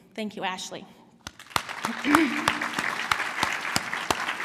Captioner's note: applause